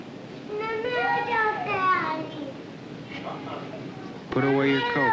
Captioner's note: Spanish speaking